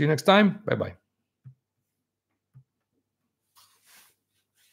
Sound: silence

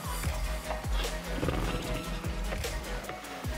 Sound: horse noises

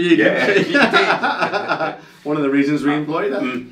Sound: laughing

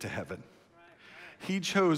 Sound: congregation murmurs

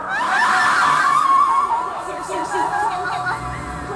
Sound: woman screaming

